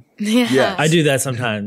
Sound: laughs

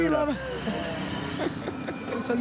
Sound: laughs

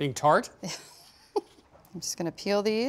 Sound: laughs

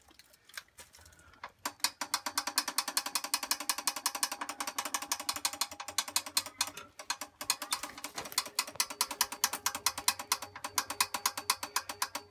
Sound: rattling of injector pump lever

